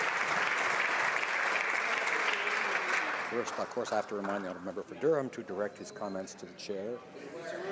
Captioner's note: some Applause